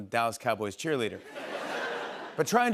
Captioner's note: laughter